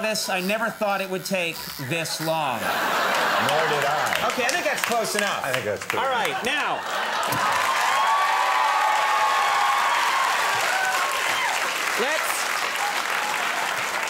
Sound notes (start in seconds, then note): 1.8 audience laughs; 8.9 audience cheers